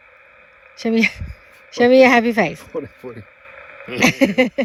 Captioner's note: laughing